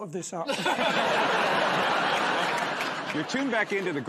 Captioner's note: laughter